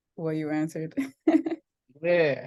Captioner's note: laughs